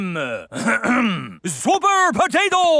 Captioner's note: clears throat